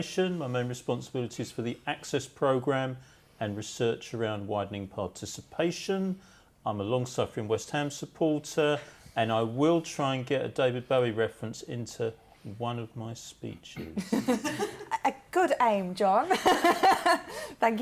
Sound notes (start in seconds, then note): 13.9 laughter